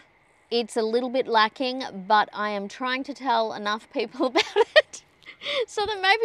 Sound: laughs

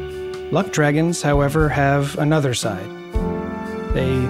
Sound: JUSTIN voiceover

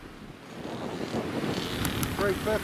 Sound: wind rustling

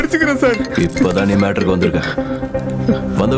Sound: phone rings

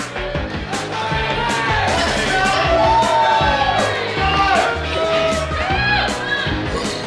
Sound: cheering & Clapping

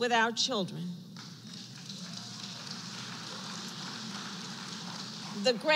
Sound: applause

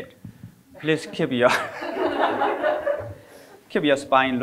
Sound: all laughing

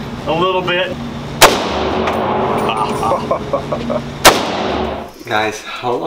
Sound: gunshots banging; laughing

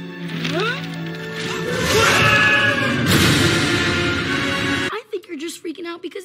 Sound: screaming

